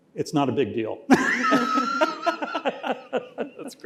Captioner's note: laughter